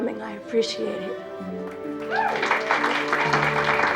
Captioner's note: cheering and applauding